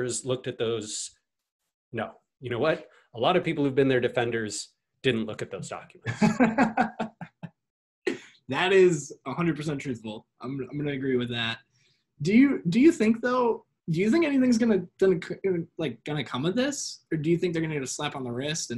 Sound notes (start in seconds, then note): 6.0 laughs